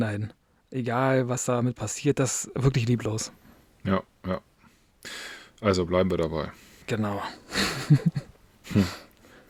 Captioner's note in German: gelächter